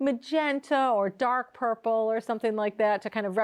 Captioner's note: none